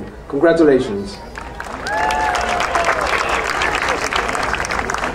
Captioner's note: crowd applauding